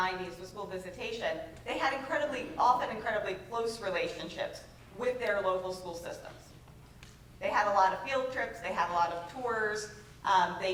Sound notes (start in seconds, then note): none